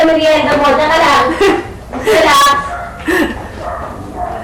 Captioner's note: chuckles